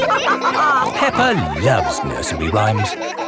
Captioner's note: all laughing